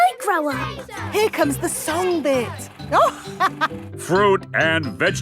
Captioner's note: chuckling